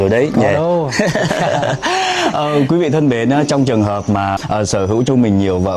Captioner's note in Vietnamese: tiếng cười